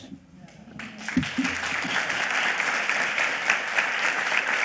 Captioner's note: audience clapping